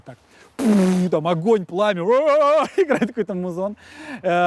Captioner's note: exclaims